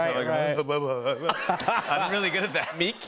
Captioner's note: laughter